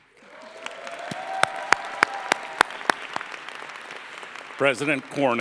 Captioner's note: applause